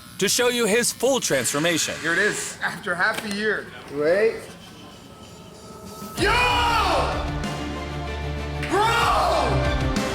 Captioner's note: screaming